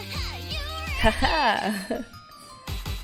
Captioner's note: laughs